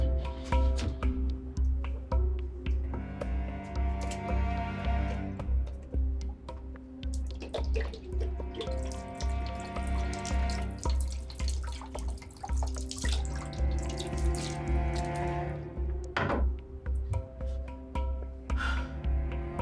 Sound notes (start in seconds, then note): 8.7 water splashing; 16.1 bottle thuds; 18.5 sighs